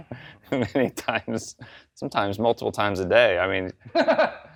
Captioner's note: laughs